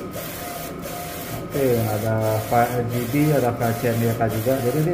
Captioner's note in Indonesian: suara mesin printer